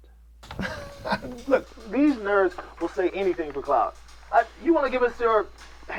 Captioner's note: laughs